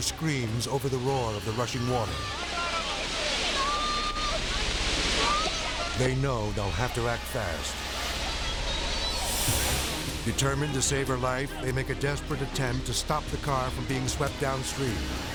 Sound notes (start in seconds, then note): 2.7 driver shouts; 2.7 water plashes